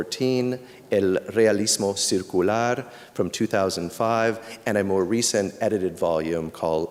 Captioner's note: non-english speech